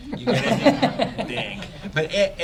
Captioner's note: laughter